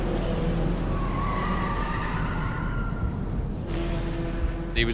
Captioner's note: car tires screeching